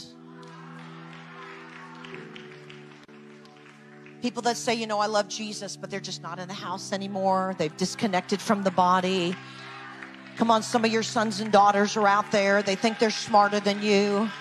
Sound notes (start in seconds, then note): 0.0 audience claps; 7.9 crowd talks distantly; 14.2 audience claps